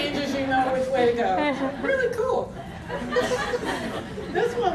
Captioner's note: audience laughter; audience laughter